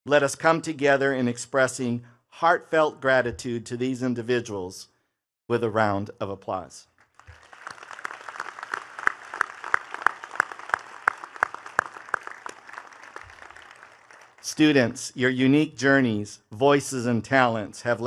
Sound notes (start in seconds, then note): 7.0 attendees clapping